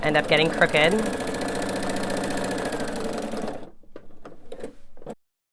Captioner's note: machine whirs